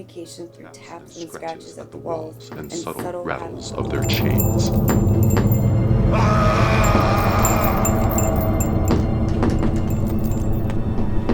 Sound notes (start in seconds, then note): 6.0 screaming; 8.2 tapping